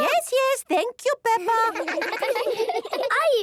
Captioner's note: children laughing